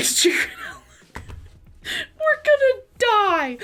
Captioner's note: laughs